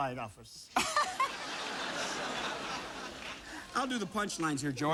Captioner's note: laughter